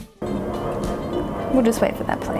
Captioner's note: engine roars